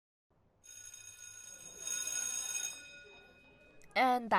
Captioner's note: school bell rings